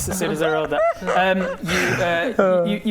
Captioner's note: un-woke laughter